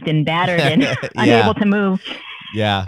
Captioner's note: laughter